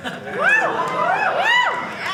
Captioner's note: audience laughing